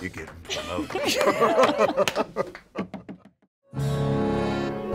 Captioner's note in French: rires